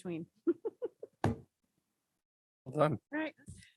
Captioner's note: laughs